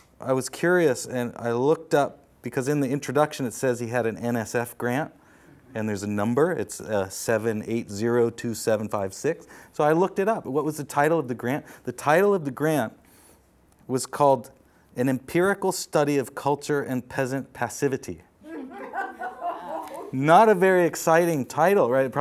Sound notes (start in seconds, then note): 18.5 audience laughs